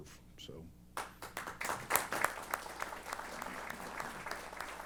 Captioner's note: applause